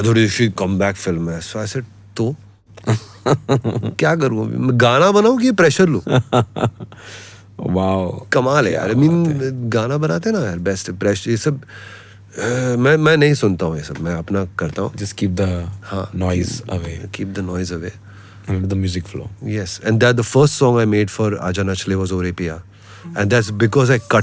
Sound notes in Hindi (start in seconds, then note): 6.0 हंसी; 11.7 अचानक ज़ोर से सांस लेने की आवाज़